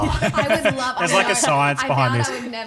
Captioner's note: laughing